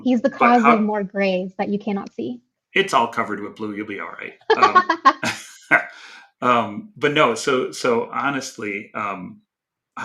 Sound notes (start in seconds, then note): 4.5 both laughing